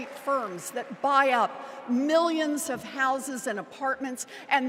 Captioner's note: applause